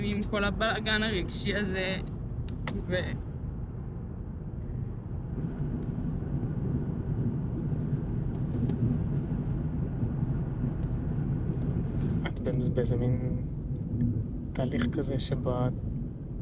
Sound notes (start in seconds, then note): 12.2 speaking foreign language